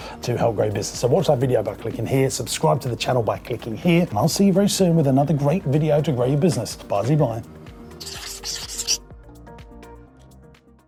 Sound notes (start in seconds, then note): 8.0 scribbling sound; 9.0 gentle music